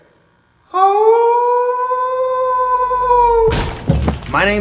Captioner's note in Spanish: aullido